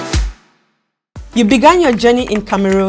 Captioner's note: keys typing